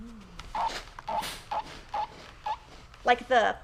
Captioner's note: iron squeaks